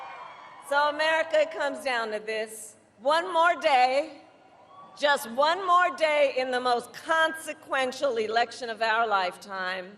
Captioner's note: cheers and Applause